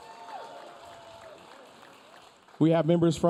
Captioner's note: audience cheering